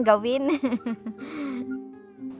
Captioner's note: laughs